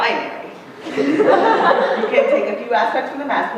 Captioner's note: laughter